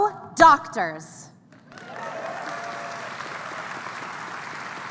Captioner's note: applause